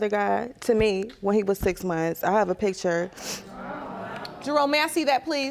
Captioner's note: gasping